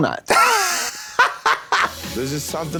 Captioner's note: Trixie chortles